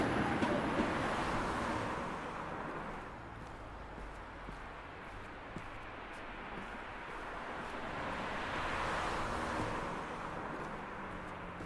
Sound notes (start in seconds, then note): 4.4 footsteps; 8.5 passing traffic